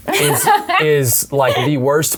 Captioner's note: laughs